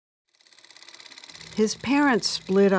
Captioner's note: projector clattering